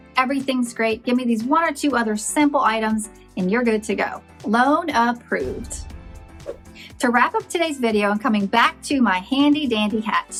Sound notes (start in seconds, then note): 3.3 bright, bouncy music; 5.3 whooshes